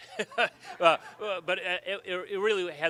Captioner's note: laughs